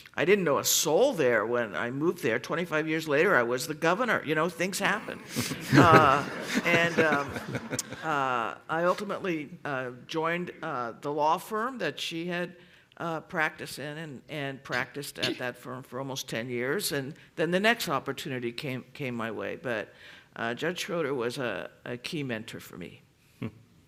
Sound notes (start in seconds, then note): 5.3 laughter